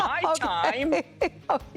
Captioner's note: laughter